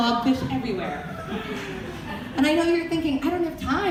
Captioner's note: audience laughter